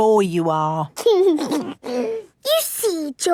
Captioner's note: giggles